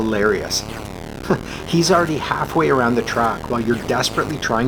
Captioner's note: chuckle